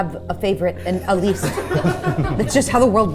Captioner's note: everyone laughing